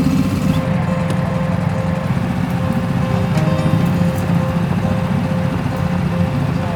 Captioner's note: boat whirring; calm music